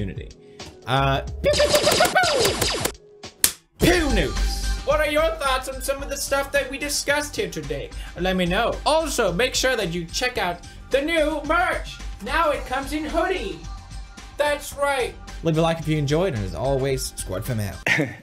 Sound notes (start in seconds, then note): 1.5 fake laser gun sounds